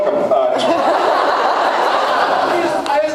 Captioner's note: laughs